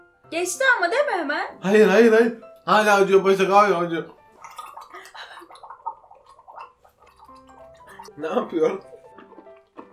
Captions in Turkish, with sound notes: Ayyy geçti ama de mi hemen hayır hayır hayır Hala acıyo başak hala acıyor (gargara) Napıyon